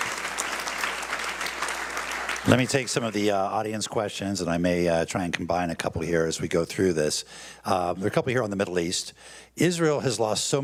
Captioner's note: applause